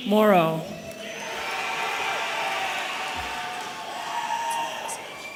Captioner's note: audience cheering